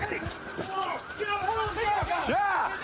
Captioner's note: officers yelling